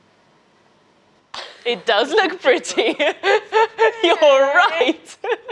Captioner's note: laughing